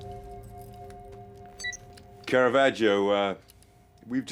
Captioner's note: beeps